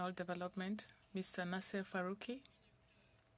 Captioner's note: speaking French